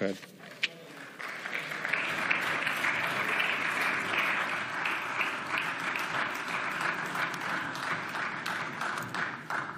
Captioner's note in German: Beifall